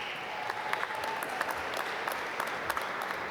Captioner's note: applause